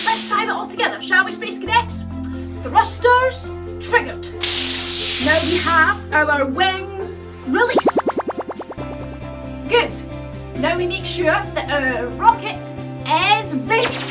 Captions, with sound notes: Let's tie that all together, shall we space cadets. Thrusters triggered. [FIZZLE] Now we have our wings released. [WARBLE] Good. Now we make sure that our rocket is ready.